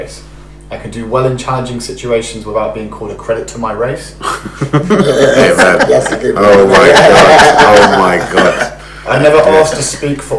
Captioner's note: laughs